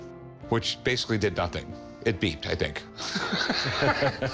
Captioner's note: both laughing; chuckles